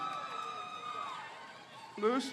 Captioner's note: crowd cheers